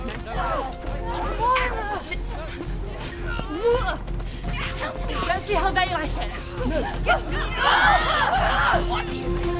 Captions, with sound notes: - Let's see how they like it. (prisoners shout)